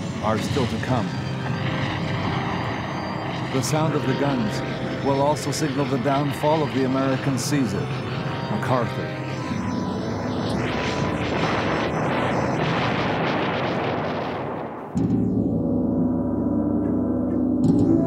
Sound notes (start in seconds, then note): 10.4 explosions booming; 15.2 somber music